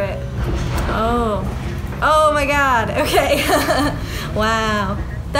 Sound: chuckling

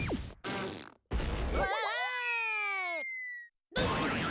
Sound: Daffy screaming

